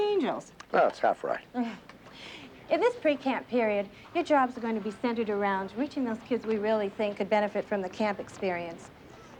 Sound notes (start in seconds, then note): 1.7 chuckles